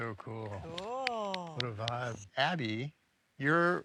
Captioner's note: people applauding